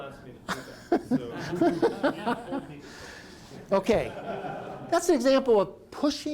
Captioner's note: laughter